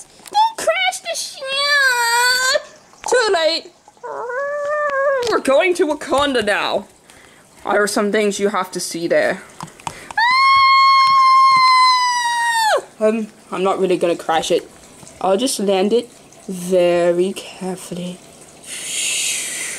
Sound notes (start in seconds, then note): 10.2 continues screaming